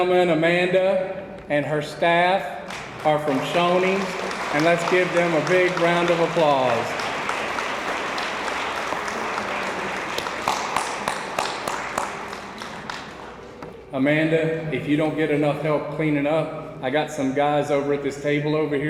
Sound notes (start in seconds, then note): 6.8 attendees applauding